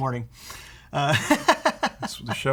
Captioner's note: laughs